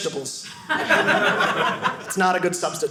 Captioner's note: audience laughing